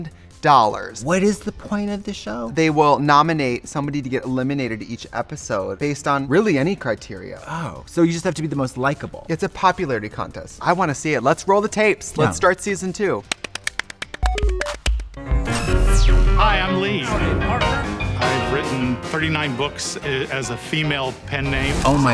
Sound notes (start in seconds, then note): 13.2 hands clap; 14.2 upbeat music